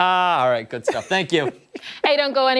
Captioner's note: laughter